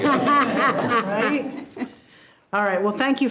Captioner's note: all laughing